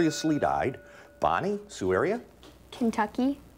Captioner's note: bell rings